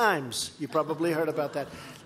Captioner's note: laughter